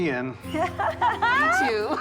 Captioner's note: both laughing; laughing